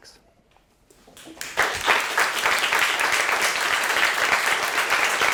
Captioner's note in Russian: студенты аплодируют